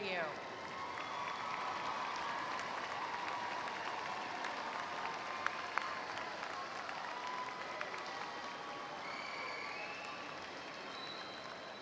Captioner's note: applause